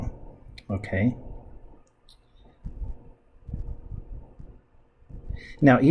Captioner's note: writing Sounds